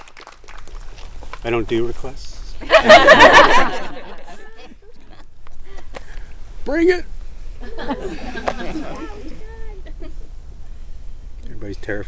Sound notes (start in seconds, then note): 2.5 group laughing